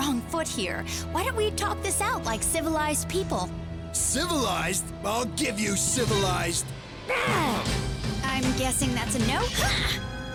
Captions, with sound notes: LISTEN, MAYBE WE GOT OFF ON THE WRONG FOOT HERE. WHY DON'T WE TALK THIS OUT LIKE CIVILIZED PEOPLE? CIVILIZED?! I'LL GIVE YOU CIVILIZED. (KICKING GRUNT) I'M GUESSING THAT'S A "NO"?